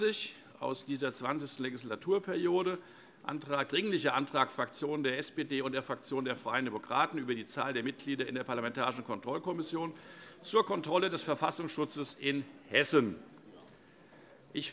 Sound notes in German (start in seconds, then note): none